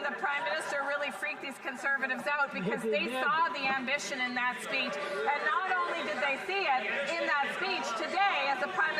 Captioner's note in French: voix de l'interprète